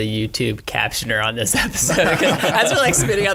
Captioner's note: all laughing